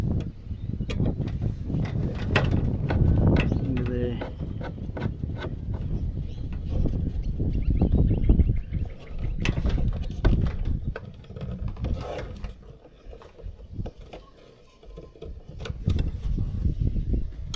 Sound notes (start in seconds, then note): 0.9 metal clanking